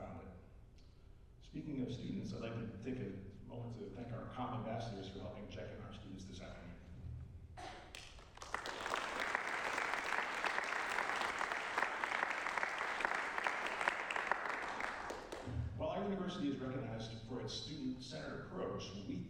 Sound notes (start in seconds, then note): 7.9 applause